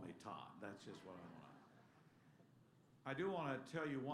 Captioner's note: laughter